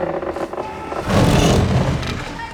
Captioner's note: gate slams